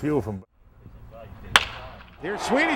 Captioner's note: smack of bat on ball